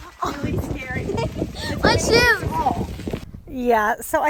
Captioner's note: giggles